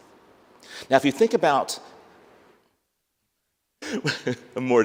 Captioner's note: laughs